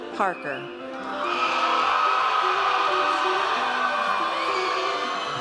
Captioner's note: audience cheers